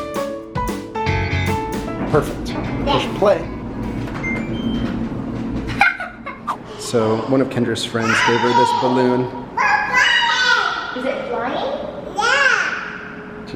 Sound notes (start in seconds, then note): 3.5 washing machine beeps; 5.7 laughs; 9.7 babbles in excitement